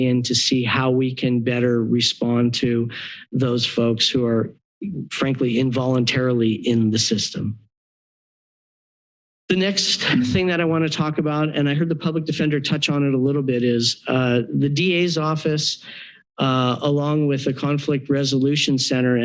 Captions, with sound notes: to see how we can better respond to those folks who are, frankly, involuntarily in the system. [pause] The next thing that I want to talk about, and I heard the public defender touch on it a little bit is the DA's office, along with the Conflict Resolution Center